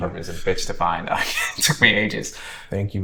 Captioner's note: chuckles